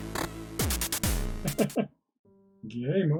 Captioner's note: chuckles